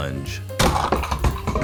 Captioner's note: bonk!